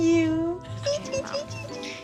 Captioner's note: chirping